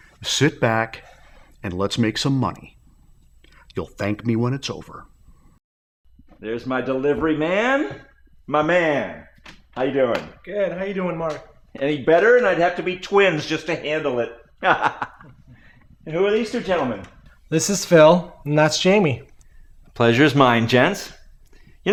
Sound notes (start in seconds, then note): 14.6 laughing